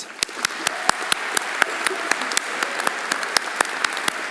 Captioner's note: everyone applauding